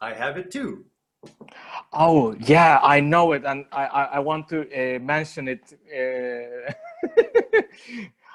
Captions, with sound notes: - I have it too. - Oh yeah, I know it. And I want to mention it. (laughs)